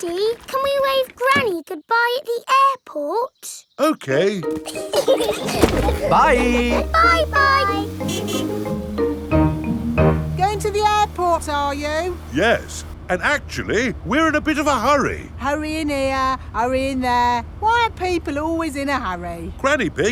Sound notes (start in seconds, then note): 4.5 laughing; 8.1 horn honking